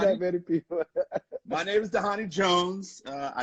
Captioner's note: laughing